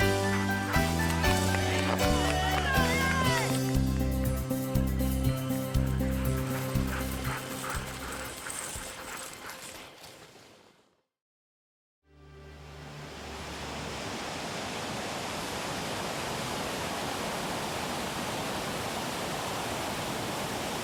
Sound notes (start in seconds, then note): 0.0 fast music; 5.3 dogs panting; 12.4 water rushing